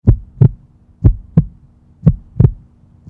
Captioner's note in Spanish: latidos